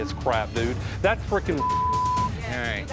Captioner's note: beep